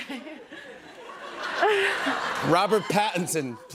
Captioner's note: laughter